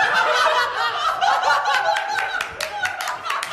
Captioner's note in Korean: 대폭소; 물개 박수